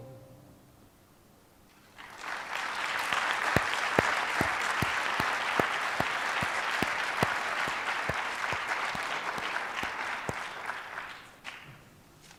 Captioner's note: applause